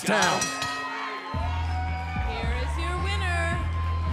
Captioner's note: bell ringing